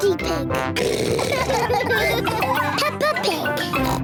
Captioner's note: snorts; all laughing; snorts